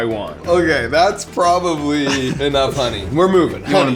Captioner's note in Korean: 웃음